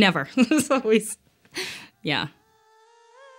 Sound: laughs

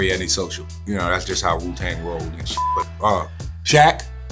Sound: beeps

